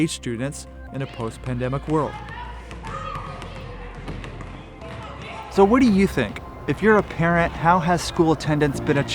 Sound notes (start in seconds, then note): 3.1 balls bouncing